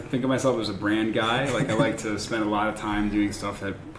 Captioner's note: laughter